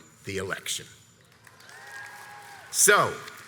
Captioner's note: audience applauds and cheers